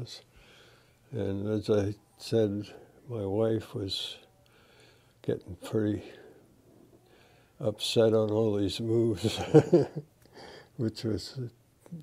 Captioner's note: laughter